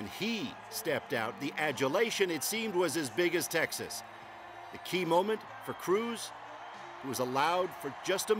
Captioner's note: cheers and applause